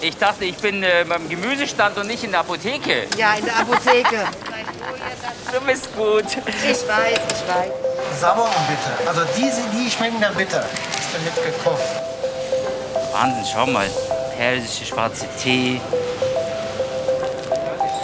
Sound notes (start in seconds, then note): 3.3 laughs